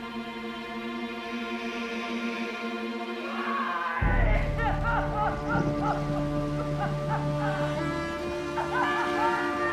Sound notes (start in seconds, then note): 4.1 weeping